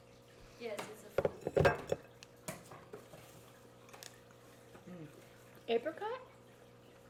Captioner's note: dishes clattering